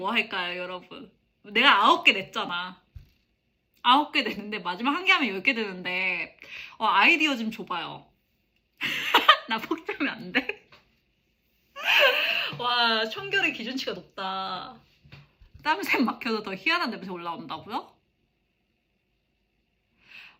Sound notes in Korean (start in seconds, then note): 8.8 웃음